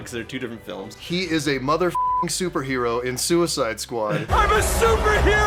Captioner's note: beeping